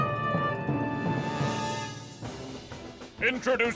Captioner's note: none